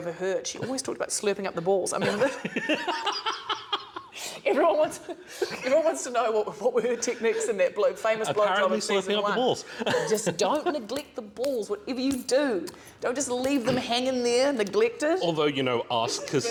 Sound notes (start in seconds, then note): 2.0 laughter